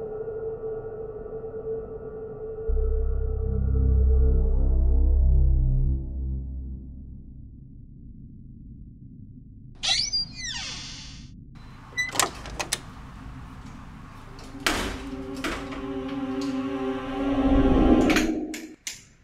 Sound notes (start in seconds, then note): 11.6 door opens; 14.3 door closes